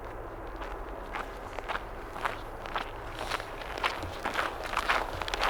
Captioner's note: snow crunches